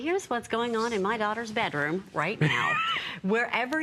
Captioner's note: laughter